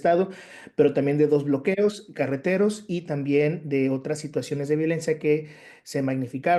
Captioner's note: continues speaking Spanish